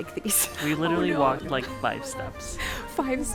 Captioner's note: giggles